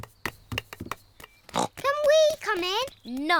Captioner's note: snorts